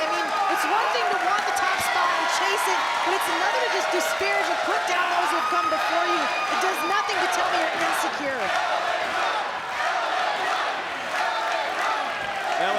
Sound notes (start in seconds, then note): 8.8 crowd chanting